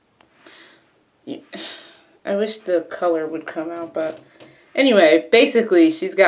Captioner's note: sighs